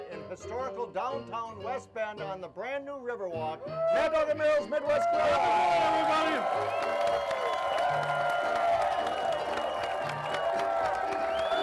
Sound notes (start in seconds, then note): 4.8 crowd cheering; 7.8 upbeat piano music continues